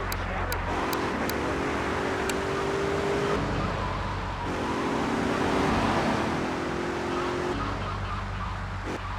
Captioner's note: sirens wailing